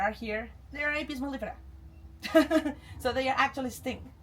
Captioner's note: chuckles